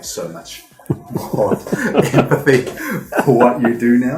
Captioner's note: laughing